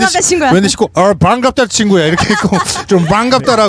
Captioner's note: with foreigner accent